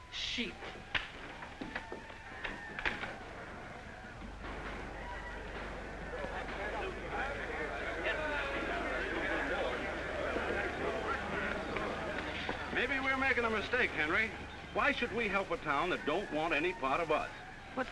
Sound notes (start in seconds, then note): 5.5 men murmuring